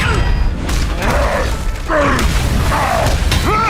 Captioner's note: grunts; grunting